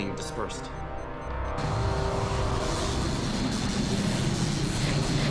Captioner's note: zapping continues